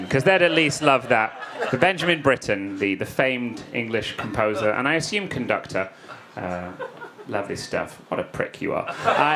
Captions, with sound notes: 'cause they'd at least loved that. (audience laughing) But Benjamin Britten, the famed English composer and I assume conductor. (woman laughs) Lovely stuff. What a prick you are.